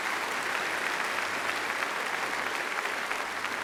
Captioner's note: applause